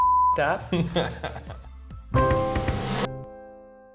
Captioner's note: beep; laughing